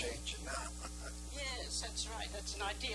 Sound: laughing

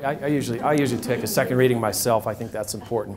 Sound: audience laughs

